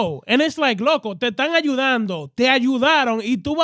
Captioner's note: speaking In Foreign Language